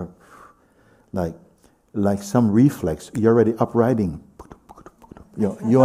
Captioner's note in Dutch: bootst galopperen na